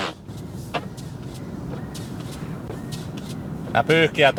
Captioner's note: wipers screeching on a clean windshield